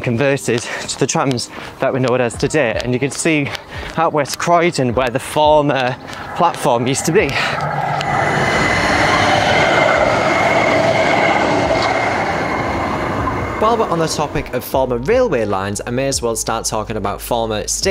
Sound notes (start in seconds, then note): 7.8 tram passing at high speed